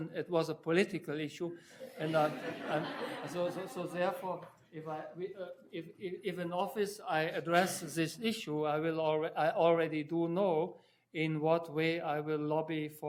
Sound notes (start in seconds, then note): 1.8 audience laughing